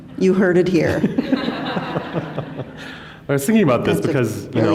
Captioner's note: laughter